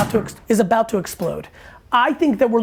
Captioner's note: loud thud